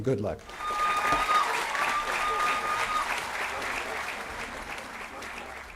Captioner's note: applause & Cheering